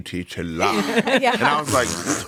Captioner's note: everyone laughs